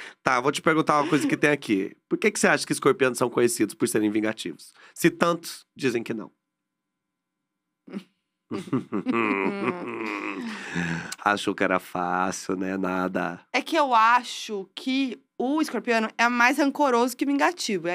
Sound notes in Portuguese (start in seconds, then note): 8.5 risos abafados